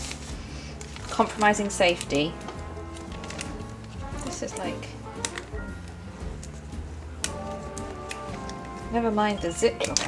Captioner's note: fumbles with bag